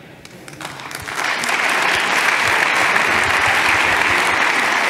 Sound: applauding

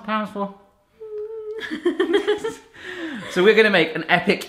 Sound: whines and laughs

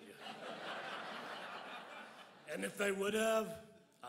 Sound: crowd laughs

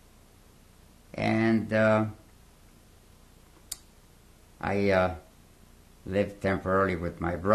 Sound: pauses for 3 seconds

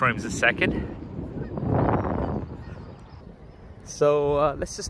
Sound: wind blowing

